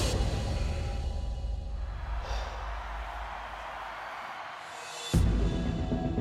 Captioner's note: crowd cheering